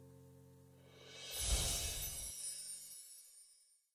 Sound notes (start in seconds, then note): 1.2 chimes ringing